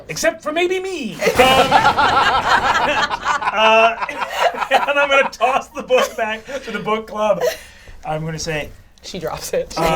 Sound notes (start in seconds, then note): 1.3 all laugh